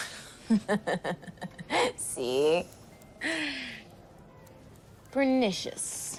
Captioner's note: laughing